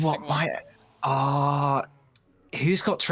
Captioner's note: ahh